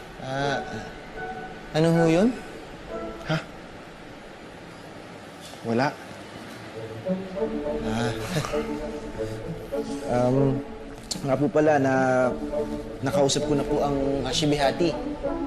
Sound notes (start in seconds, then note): 6.7 quirky music playing; 7.8 chuckles